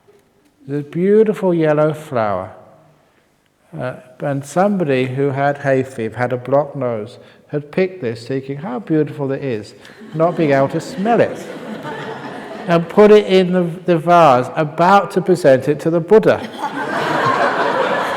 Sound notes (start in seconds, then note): 9.8 laughs; 17.9 laughter